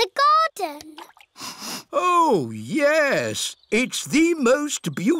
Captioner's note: sniffs